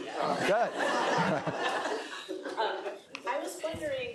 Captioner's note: laughter